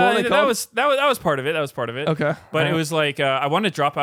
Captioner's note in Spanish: risas